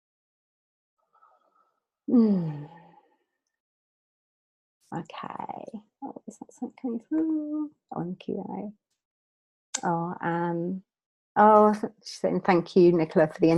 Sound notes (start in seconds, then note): 2.1 sighs